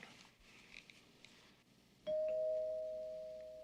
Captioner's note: doorbell